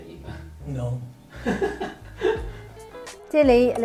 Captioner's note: laughs